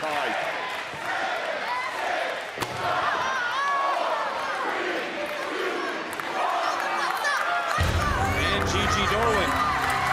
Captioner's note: crowd counting down